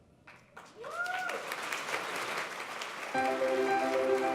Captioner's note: applause